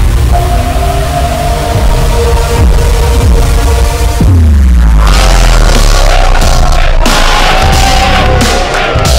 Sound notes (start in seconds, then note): 4.9 Hooting